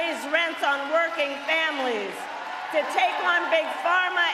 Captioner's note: cheering